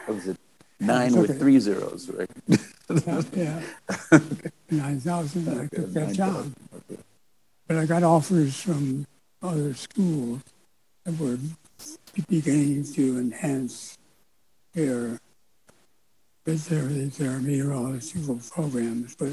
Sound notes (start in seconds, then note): 2.2 laughs